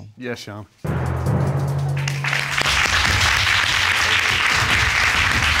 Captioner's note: crowd clapping